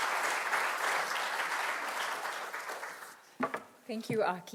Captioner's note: audience applauding